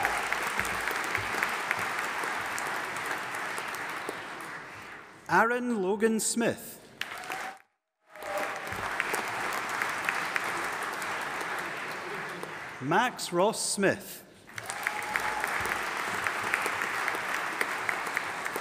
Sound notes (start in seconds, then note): 0.0 audience applauding and cheering; 8.0 audience applauding; 14.5 audience applauding